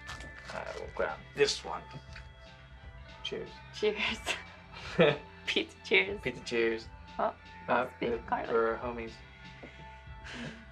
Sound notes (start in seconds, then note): 0.0 rustling; 4.8 they laugh; 10.2 Mickey, deep sigh